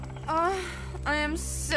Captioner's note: Heather Groans